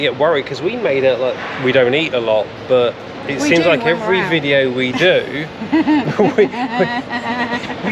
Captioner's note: laughs